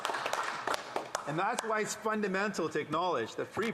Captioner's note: some Applause